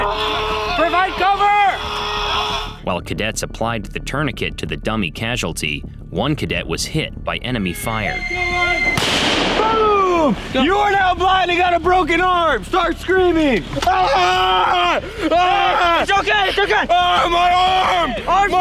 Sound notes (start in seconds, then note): 8.0 missile whistles; 8.9 missile explodes